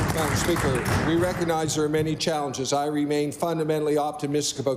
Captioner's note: applause